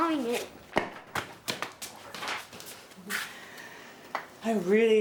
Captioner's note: footsteps departing